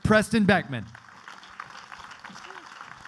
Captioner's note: clapping